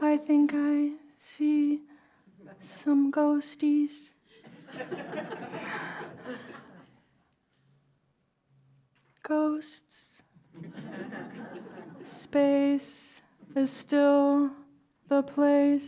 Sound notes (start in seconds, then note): 4.3 laughter; 10.4 laughter